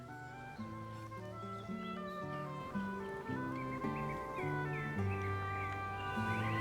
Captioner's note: birds chirping; mellow orchestral music